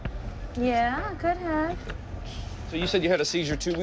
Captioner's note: chuckles